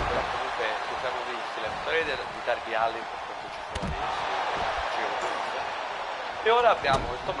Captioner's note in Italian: urlo